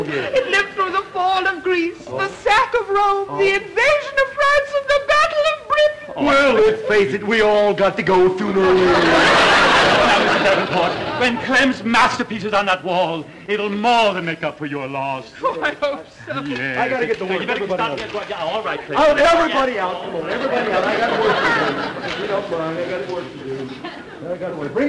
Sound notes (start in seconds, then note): 5.3 crying; 8.6 audience laughter